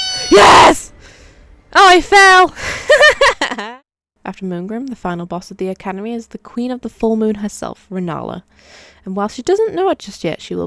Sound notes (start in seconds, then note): 2.6 laugh of relief